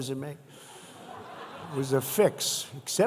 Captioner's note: laughter